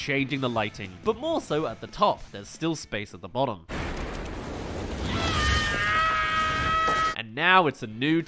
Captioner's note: rides acorn, screaming